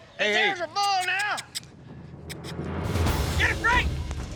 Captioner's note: makes squeaky sounds